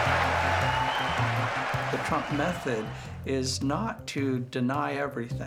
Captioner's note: audience laughing